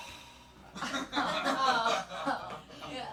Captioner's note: laughing